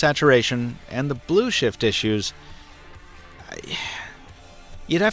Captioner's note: sighs